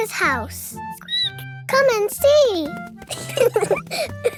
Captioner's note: squeaks; both laughing